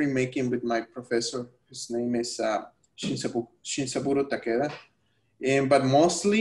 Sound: speaking spanish

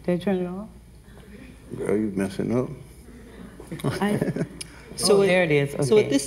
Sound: laughs

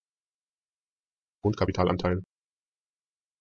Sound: fast Pronunciation

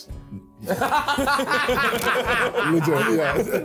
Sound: laughing

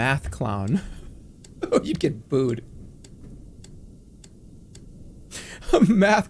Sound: giggles

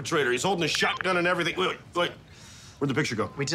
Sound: phone beeps

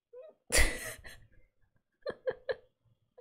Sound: laughs

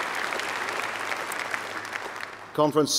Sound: applause

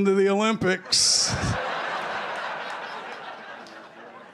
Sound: laughter

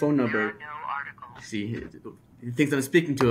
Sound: computer Voice

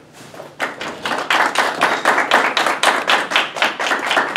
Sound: applause

